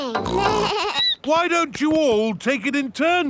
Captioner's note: snorts; bleats